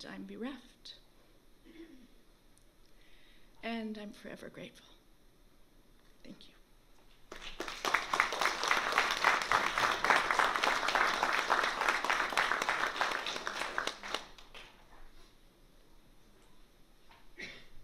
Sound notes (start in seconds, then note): 7.2 applause